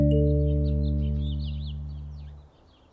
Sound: birds chirping

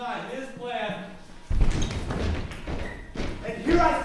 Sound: characters stomping

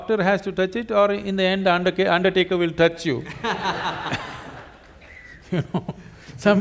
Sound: laughter

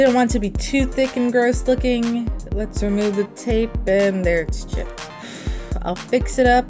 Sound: sigh

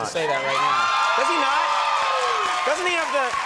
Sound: audience cheers

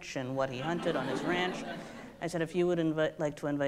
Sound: audience laughs

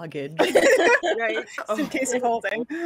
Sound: group laughs

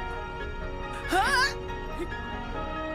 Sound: grunt

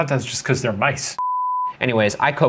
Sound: beeping

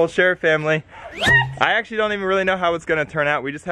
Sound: thump

